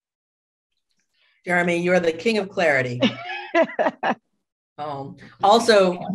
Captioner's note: laughter